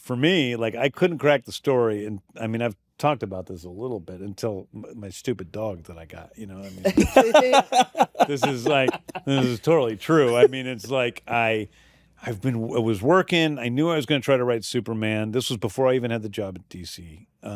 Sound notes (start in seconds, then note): 6.7 laughter